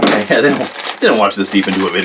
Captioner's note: laughing